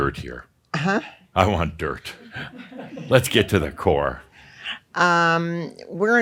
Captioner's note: some chuckles